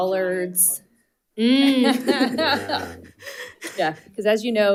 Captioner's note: all chuckling